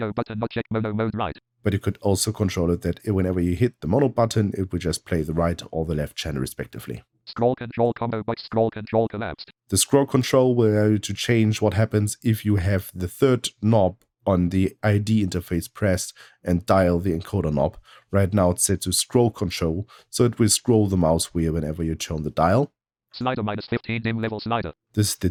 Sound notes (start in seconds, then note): 6.8 automated voice; 23.0 automated voice